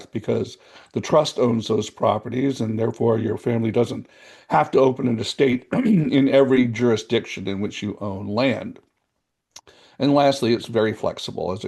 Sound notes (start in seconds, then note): 5.6 coughs